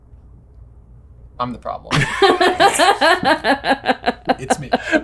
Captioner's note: all laughing